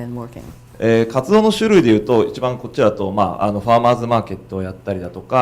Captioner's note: speaking foreign language